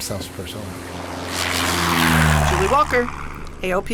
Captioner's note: engine humming